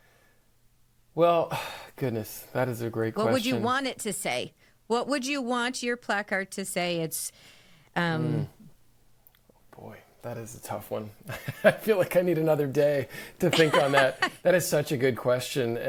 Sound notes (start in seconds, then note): 13.4 laughing